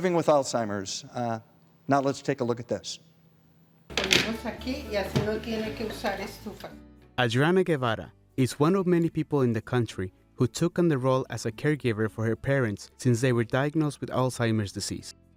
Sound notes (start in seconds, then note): 4.0 foreign language